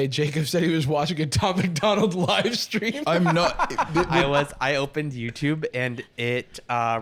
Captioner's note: laughs